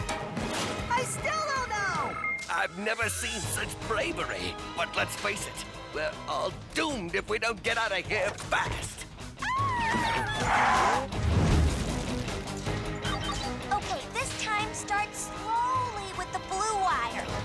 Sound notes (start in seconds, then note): 9.4 screams